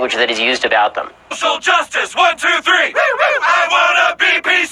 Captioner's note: woo woo